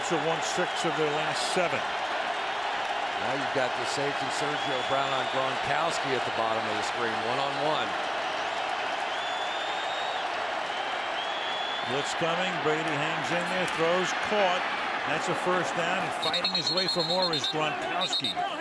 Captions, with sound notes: Colts have won six of their last seven. Now, you've got the safety Sergio Brown on Gronkowski at the bottom of the screen, one-on-one. [cheering] Blitz coming. Brady hangs in there, throws. Caught. And that's a first down. And fighting his way for more is Gronkowski.